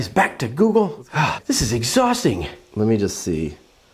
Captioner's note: sighs